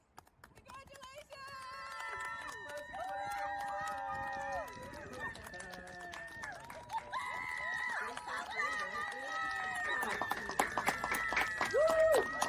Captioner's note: clapping and cheering